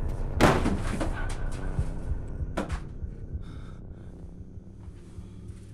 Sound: something falls

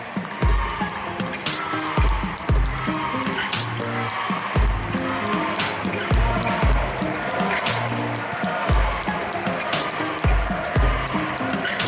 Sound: applause; ♫ Midtempo guitar music ♫; in the background a team is celebrating by shouting "heys"

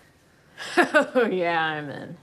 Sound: laughs

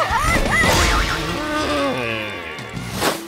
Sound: groaning

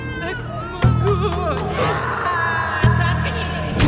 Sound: screaming

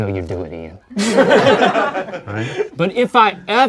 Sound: laughter

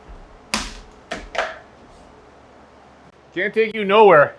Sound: banging on boards

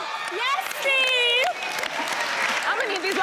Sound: cheering

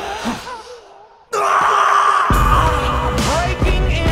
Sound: inhale; Felix death scream

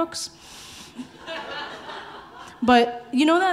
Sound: audience laughing

